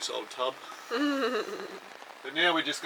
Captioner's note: chuckles